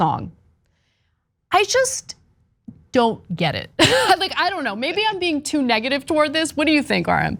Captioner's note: laugh